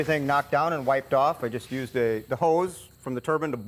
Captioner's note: none